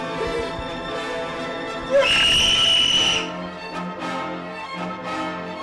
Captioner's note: prolonged shriek